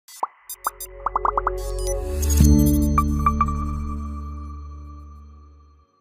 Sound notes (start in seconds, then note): 0.1 logo beeping; 2.4 light music